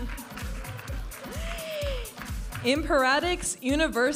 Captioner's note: audience applauding and cheering